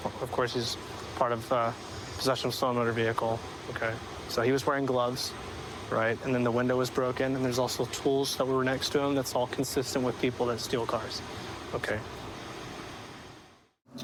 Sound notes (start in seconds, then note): none